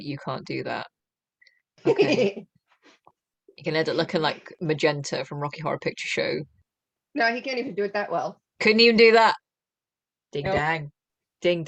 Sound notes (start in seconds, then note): 1.8 laughter